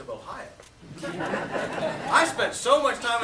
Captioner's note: laughter